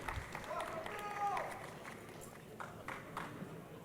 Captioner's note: crowd applauding